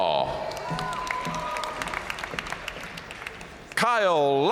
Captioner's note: audience cheering and applauding